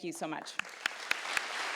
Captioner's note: applause